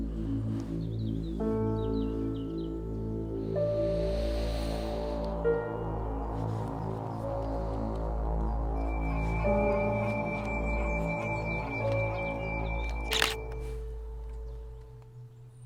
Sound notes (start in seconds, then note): 0.0 eerie music; 12.9 shutter sound